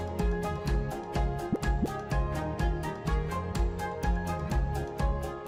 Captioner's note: speech bubbles popping